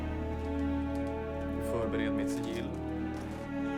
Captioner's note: speaking Swedish